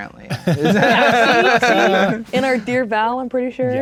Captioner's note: players laughing